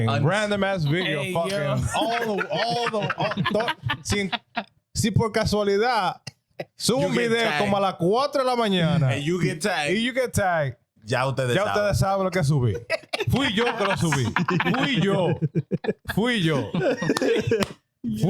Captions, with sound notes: random ass video fucking. (Laughing) (Speaking In Foreign Language)